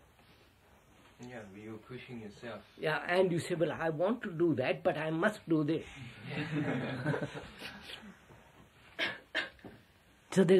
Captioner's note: laughter